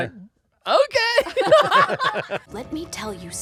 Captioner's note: laughing